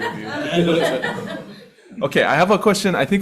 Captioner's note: people laughing